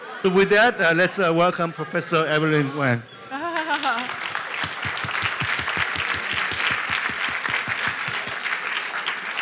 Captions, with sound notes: With that, let's welcome Professor Evelyn Wang. [LAUGHS] [APPLAUSE]